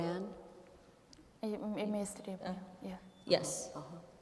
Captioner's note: speaking kurdish